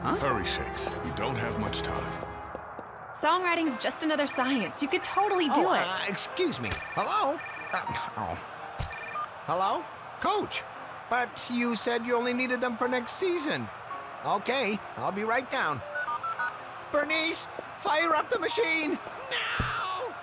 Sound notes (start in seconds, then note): 6.1 phone ringing; 15.8 phone beeping